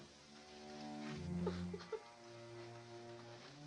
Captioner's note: crying